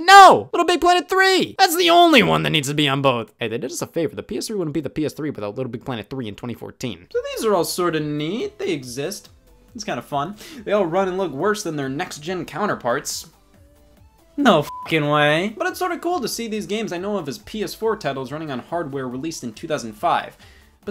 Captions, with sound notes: No! Little Big Planet 3! That's the only one that needs to be on both. Hey, they did us a favor, the PS3 wouldn't be the PS3 without Little Big Planet 3 in 2014. So these are all sort of neat, they exist. It's kind of fun. They all run and look worse than their next gen counterparts. No (beep) way. But it's sort of cool to see these games I know of as PS4 titles running on hardware released in 2005.